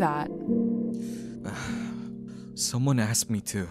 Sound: Chase sighs

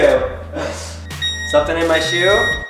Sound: scanner beeps

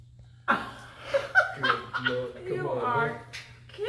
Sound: laughter

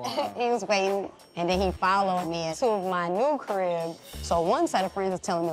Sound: chuckles

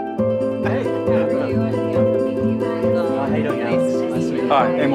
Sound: guitar strumming; oices chattering in background

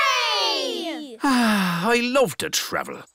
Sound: sighs

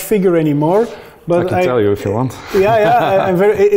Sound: laughs

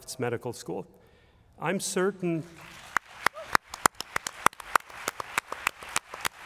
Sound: applause

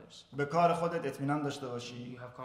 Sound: speaking in farsi

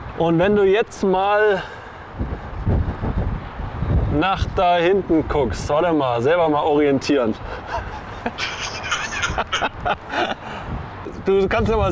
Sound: laughs

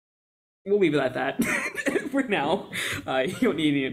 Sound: laughs

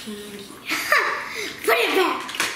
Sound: laughs

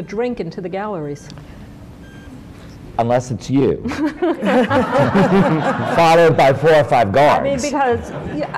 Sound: laughter

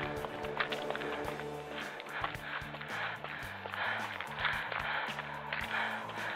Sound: footsteps and heavy breathing

